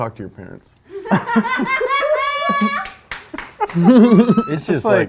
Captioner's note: woman laughs loudly